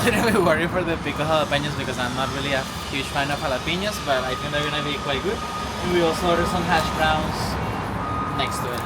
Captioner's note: traffic sound